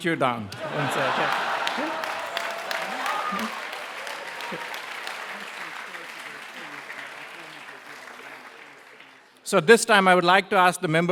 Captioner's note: applause